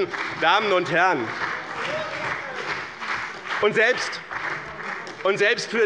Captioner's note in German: Beifall bei dem BÜNDNIS 90/DIE GRÜNEN und der CDU